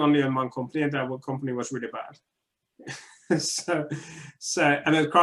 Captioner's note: laughing